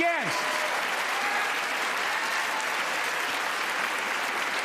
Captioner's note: applause